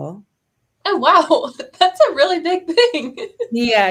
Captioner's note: laughter